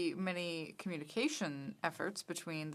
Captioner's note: speaking french